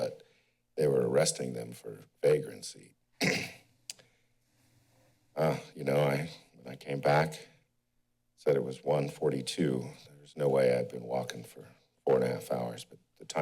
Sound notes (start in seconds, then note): 3.2 clears throat